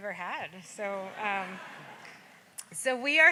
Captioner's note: audience laughs